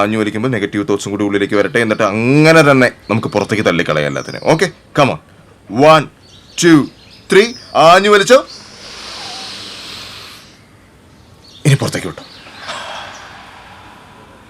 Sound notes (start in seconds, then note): 8.6 he Inhales; 12.5 he Exhales